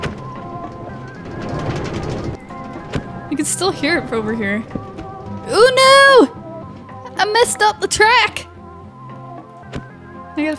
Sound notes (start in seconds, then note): none